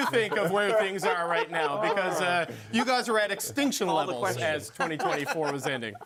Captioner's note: laughing